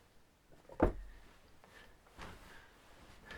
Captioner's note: soft thud